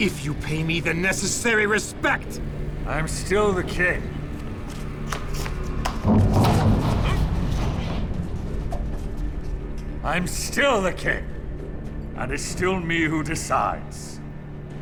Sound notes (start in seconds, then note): 6.0 Philip groans